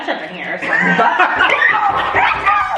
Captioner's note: all laugh; older kids clap